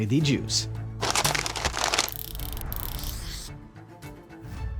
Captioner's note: paper rustling